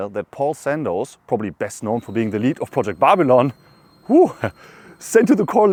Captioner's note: woo